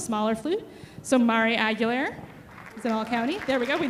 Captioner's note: audience applauding